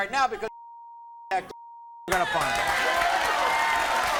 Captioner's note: beep; audience applauds